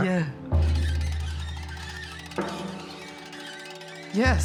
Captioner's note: squeaking